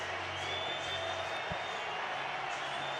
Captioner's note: crowd cheering